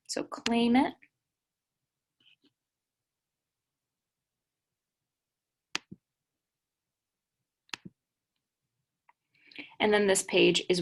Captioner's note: uncomfortable silence as we wait for it to load